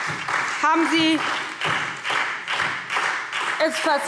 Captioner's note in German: Beifall SPD